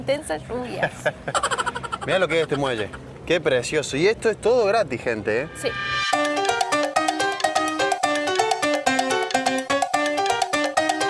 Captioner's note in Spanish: risas